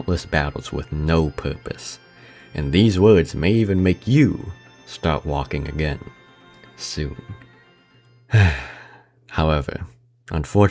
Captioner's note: sigh